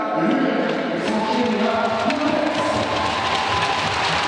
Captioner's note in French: applaudissements